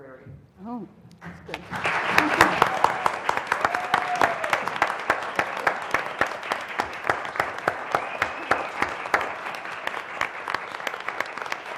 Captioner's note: applause